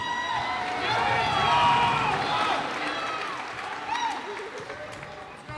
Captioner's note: cheers and applause